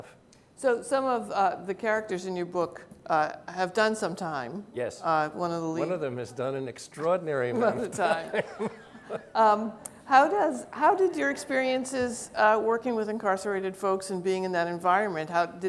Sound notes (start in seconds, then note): 7.5 laughing